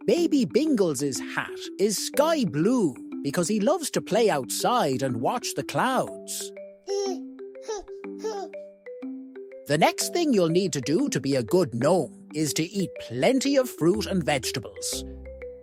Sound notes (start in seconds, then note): 6.8 baby gurgles